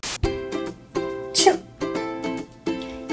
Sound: 打噴嚏 sneezing

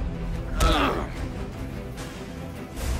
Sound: Hero and Bondage Grunts

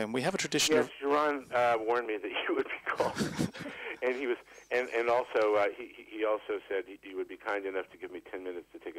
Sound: laughs

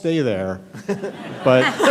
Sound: laughter

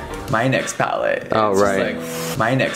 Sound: exhales

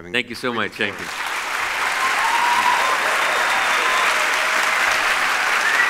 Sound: audience claps and cheers

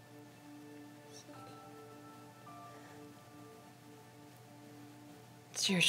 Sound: Annabelle whispering

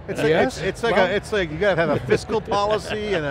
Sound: laughs

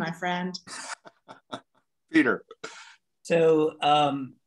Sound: chuckles

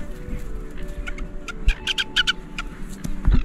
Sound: bird sounds

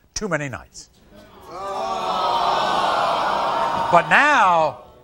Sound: audience groaning

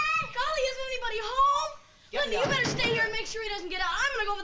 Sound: none

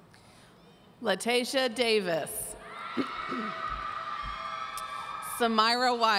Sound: audience cheering

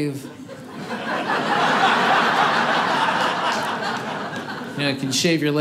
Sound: audience laughing

